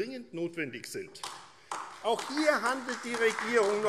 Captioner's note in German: Beifall AfD